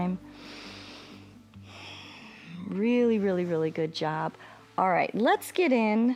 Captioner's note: inhales and exhales